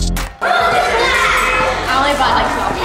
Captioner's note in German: Leute plappern